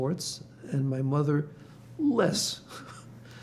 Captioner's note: laughing